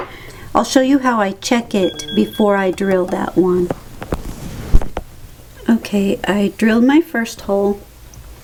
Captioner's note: ping